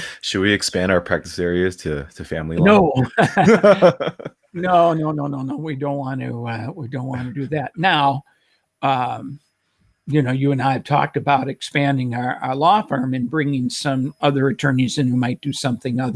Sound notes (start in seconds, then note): 2.5 laughs